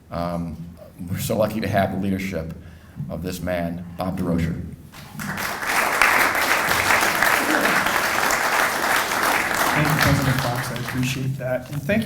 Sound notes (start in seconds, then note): 4.9 applauding